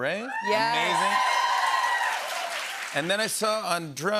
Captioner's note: cheers and applause